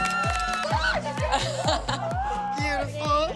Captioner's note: squealing